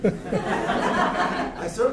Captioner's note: laughter